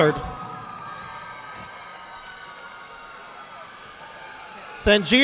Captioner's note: audience applauding